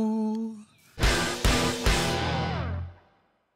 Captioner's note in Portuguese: som de destaque